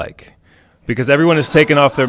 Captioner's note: all laughing